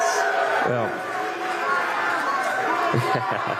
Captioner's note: cheers and boos; laughter